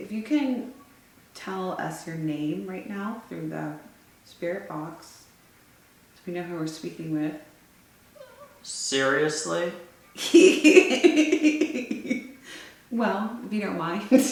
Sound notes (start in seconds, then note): 8.2 woman moaning; 10.2 laughs